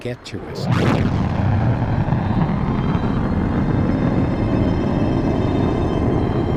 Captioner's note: sound booms, rocket roaring